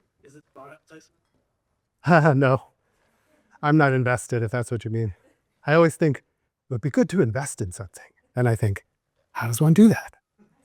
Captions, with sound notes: - Is it monetized? - (laughs) No, I'm not invested, if that's what you mean. I always think it would be good to invest in something, and I think, "How does one do that?"